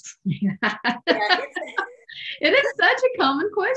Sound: laughs

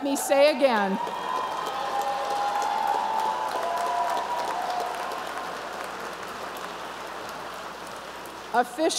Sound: applause and cheering

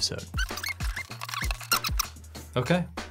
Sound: audio on fast forward

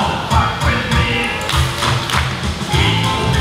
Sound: clapping

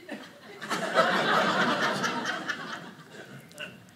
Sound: audience laughing

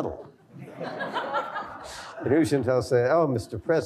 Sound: laughter

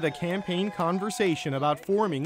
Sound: cheers and Applause

